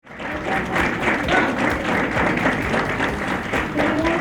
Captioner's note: crowd applauding